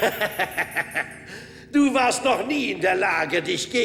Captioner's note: laughing